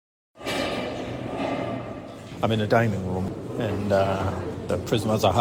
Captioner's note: metal door sliding